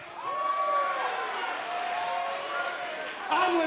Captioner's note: crowd cheering